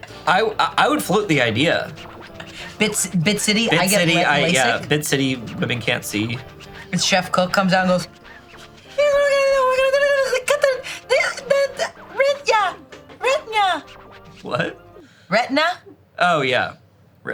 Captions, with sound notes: - I would float the idea. - Bit City. I get Lasik. - Yeah. Bit City, women can't see. - And Chef Cook comes out and goes. (babbling goofily) Retina. - What? - Retina. - Oh yeah.